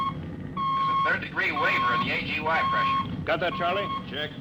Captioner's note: beeping